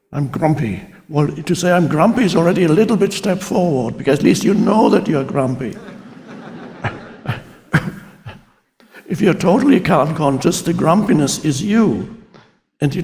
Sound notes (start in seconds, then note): 5.6 audience laughs